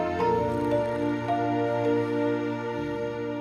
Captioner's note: snoring